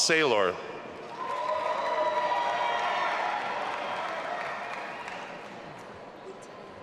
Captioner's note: audience applauding and cheering